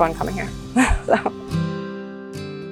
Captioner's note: chuckles; soft music